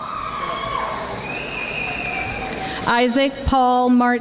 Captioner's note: audience applauding